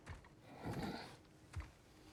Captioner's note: grunt